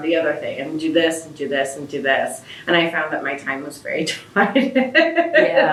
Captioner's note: laughs